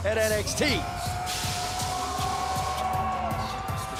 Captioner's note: crowd cheering